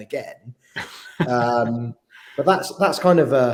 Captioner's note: laughing